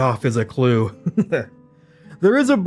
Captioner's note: chuckles